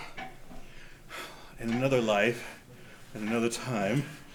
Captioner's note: exhales